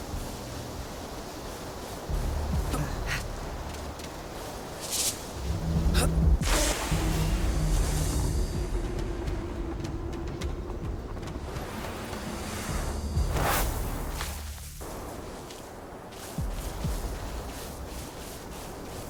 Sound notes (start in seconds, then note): 1.2 static; 1.8 ominous music; 9.4 ominous music